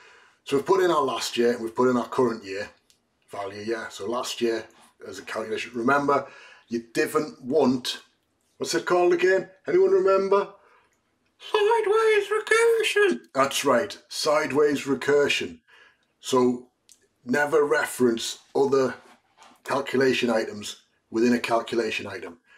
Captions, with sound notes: So we've put in our last year. We've put in our current year value. Last year as a calculation. Remember, you don't want, what's it called again? Can anyone remember? [High voice] Sideways recursion. That's right. Sideways recursion. Never reference other calculation items within a calculation item.